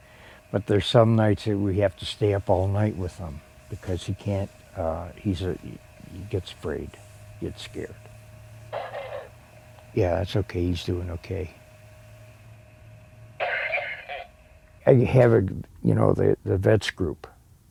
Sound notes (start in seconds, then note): 8.3 coughing on baby monitor; 13.4 coughing on baby monitor